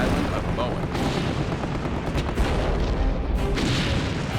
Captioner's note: explosions